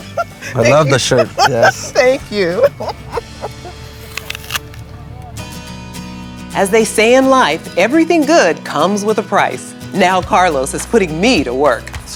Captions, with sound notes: Thank you. - I love the shirt, yes. - Thank you. [apple crunches] [bright music] As they say in life, everything good comes with a price. Now Carlos is putting me to work.